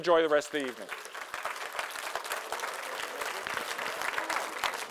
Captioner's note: audience applauding